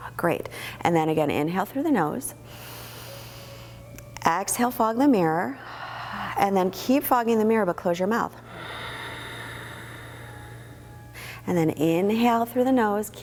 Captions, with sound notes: Great, and then again, inhale through the the nose, (inhaling), exhale, fog the mirror, (exhaling), and then keep fogging the mirror, but close your mouth (exhaling). Then inhale through the nose,